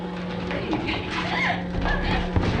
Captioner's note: screaming